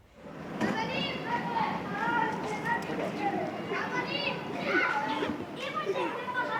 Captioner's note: children speaking in foreign language